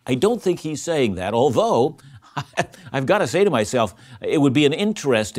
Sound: laughing

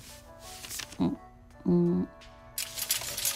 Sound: hums

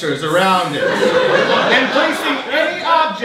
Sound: audience laughing

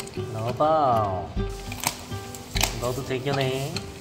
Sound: crunching!

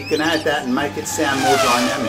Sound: car speeding

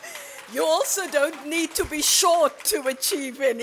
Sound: laughter and Applause

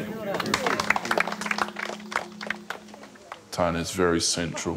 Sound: crowd applauds

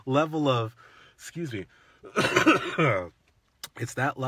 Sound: coughs

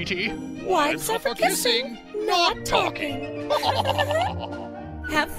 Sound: laughs

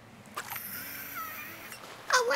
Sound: squeal of wtf is wrong with me I can't fish

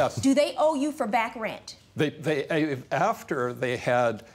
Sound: stutters

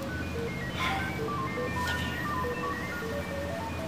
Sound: exhales

